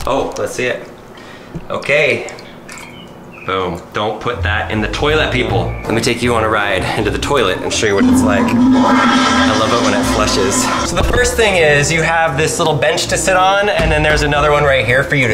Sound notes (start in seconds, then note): 4.3 playful music; 8.8 toilet flushing